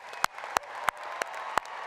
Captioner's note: applause